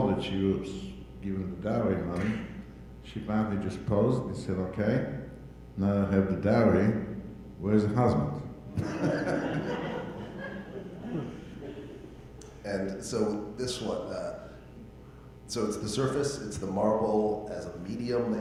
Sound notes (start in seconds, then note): 8.7 audience laughing